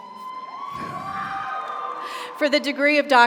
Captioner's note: audience cheers; audience applauds